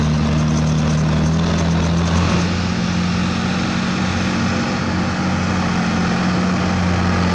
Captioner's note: engine Rev